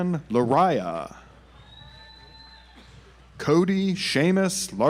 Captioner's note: audience applauds